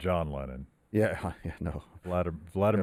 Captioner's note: chuckles